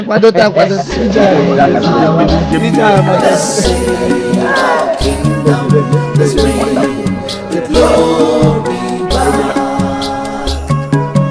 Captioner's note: laughter